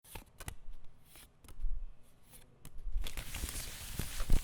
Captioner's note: cards shuffling